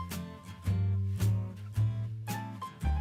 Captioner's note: hands clapping